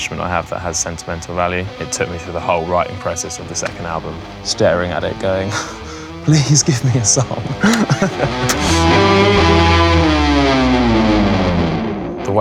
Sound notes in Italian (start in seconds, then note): 6.6 risata